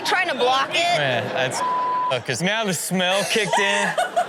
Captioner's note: beep; woman laughing